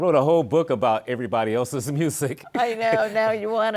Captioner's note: laughs